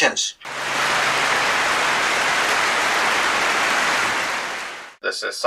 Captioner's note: clapping